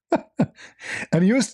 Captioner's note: laughter